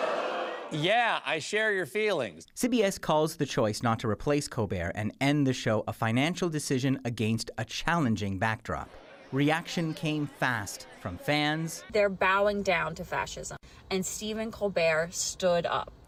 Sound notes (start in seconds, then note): 7.3 crowd booing